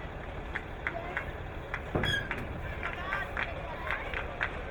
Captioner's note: crowd clapping